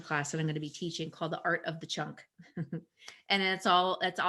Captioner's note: chuckles